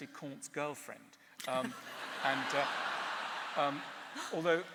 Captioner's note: laughter